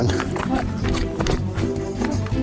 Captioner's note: rustles